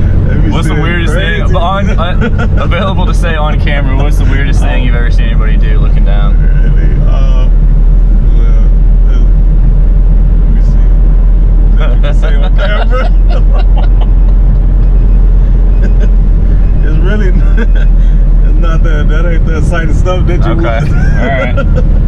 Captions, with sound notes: what's the weirdest thing? Available to say on camera, the weirdest thing you've ever seen anybody do looking down? Um... Well Let me see Available to say on camera? *laughter* It's really... not they're that much I can say.